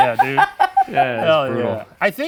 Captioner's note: laughing